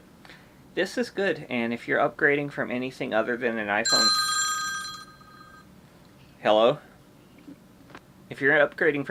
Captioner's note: phone rings